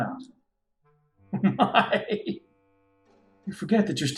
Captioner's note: laughing